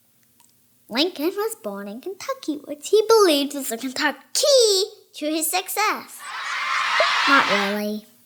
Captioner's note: children laughing